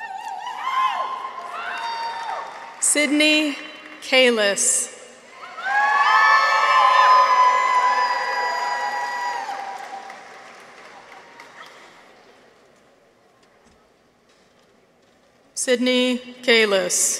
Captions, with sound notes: Sydney Kalas. -(people cheer) -(audience applauds) Sydney Kalas.